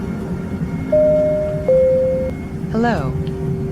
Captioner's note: plane Chime